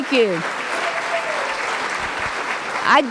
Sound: applause

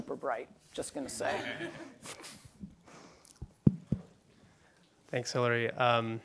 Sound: laughter

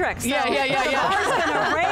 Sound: all laugh

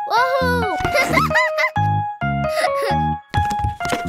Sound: both laughing

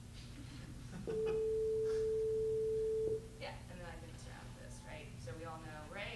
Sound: BEEP at 440Hz

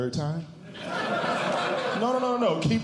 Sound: audience Laughing

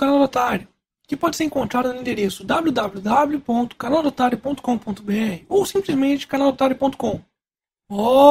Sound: in Portuguese

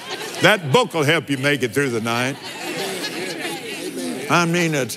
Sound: laughs

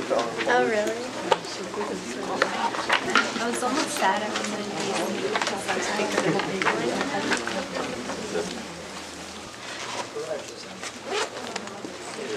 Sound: background chatter

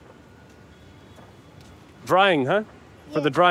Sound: speaking in foreign language

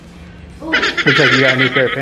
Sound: manic laughing

